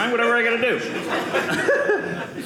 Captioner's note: audience laughing